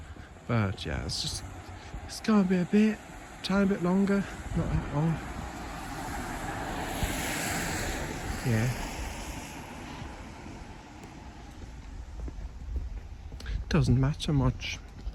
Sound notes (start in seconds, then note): 5.8 car passing